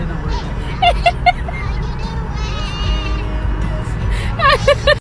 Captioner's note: laughing